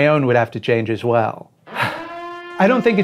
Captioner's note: annoyed sigh